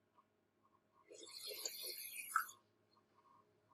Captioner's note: slurping